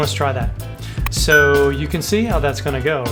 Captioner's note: bell dings